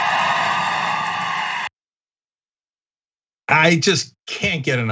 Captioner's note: applause